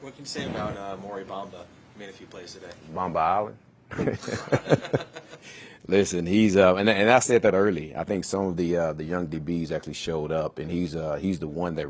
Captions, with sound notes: >> What can you say about Maury Bomba? He made a few plays today. >> Bomba Island? >> [LAUGH] >> Listen, and I said that early, I think some of the young DBs actually showed up and